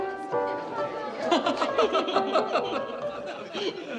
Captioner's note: laughing